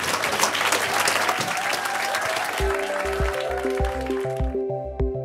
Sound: audience applause

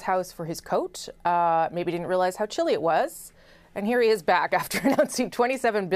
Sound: laughter

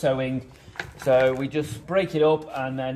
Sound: objects shuffling

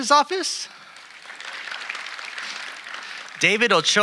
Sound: audience applauding

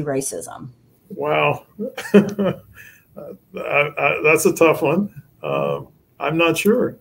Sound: chuckle

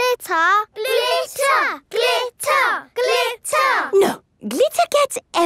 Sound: chanting

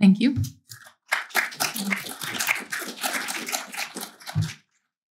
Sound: applause

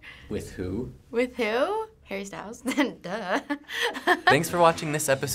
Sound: giggling

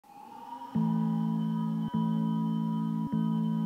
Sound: sirens

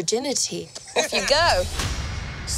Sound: laughs

